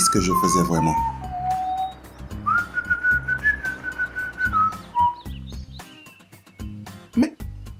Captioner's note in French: Sifflement du conducteur